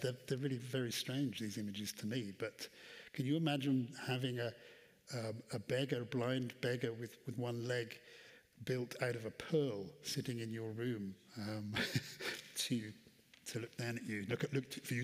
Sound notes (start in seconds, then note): 11.6 chuckles